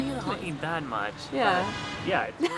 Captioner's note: car honks; laughs